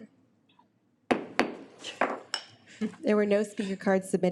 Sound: gavel bangs

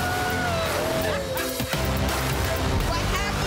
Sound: people laughing

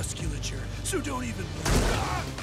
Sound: yells

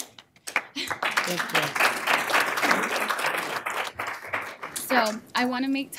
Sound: applause

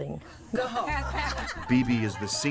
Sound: ladies laughing

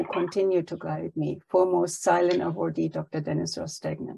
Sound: speaks foreign language

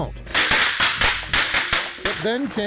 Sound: gun blasts

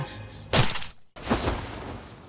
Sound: squish

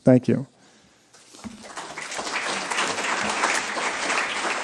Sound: applause

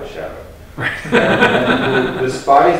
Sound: laughs

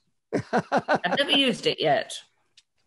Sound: laughs

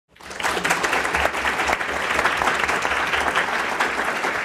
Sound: applause

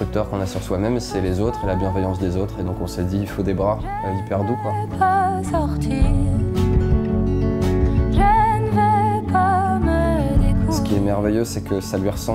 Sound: speaking in french

